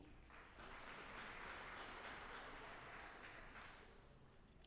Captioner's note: audience applauding